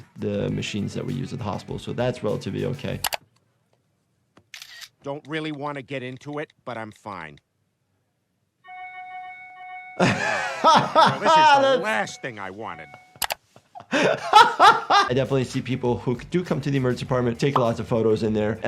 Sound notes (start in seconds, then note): 4.5 camera shutter; 9.2 notifications pinging; 10.0 laughing